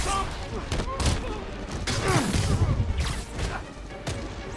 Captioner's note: pained grunting